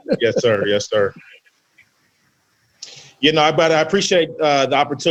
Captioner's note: laughs